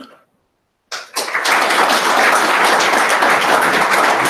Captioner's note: applause